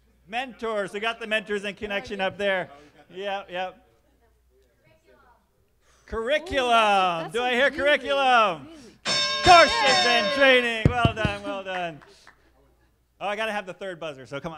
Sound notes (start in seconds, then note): 9.0 bell sounding